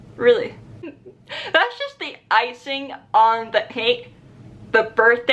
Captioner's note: laughs